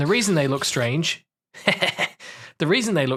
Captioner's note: laughs vengefully